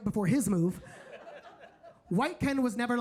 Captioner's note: audience laughing